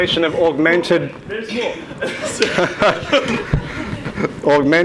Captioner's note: everyone laughs